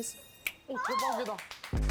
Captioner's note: finger snap